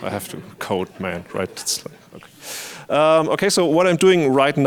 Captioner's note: audience laughing